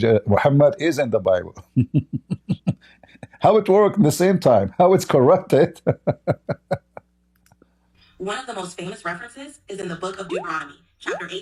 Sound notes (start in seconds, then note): 5.6 Ketawa